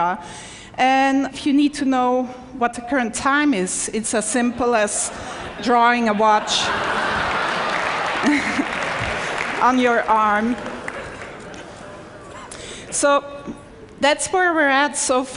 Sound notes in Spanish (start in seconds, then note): 6.8 Aplausos; 7.2 Risas